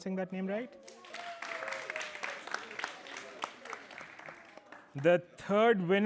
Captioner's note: applause